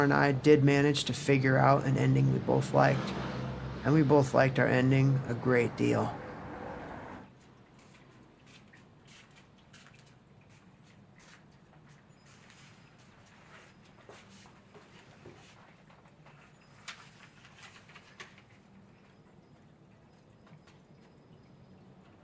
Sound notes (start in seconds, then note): 7.8 quiet, shuffling steps